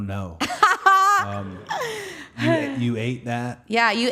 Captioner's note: Liv laughing